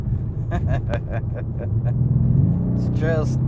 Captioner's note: chuckles